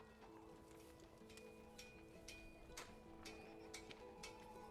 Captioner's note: hammering